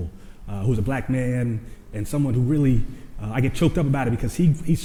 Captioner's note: none